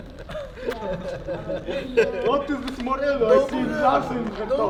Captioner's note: laughing